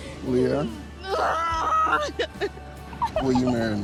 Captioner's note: Leah groaning